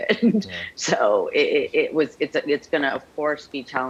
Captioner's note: laughs